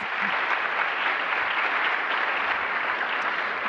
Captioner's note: applause